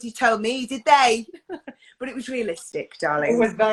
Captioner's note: laughs